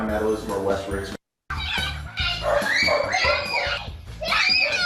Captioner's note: screaming and barking